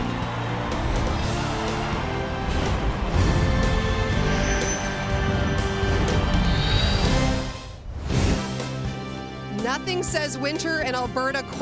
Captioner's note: cheering and Applause